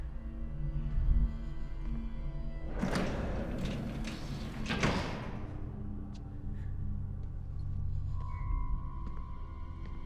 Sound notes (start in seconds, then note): 0.2 suspenseful music; 2.7 doors clank shut